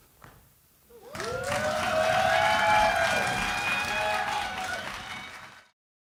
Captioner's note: crowd cheers